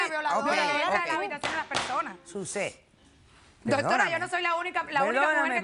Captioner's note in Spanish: Comentarios al unísono